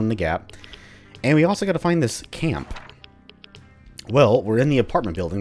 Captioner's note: journal closes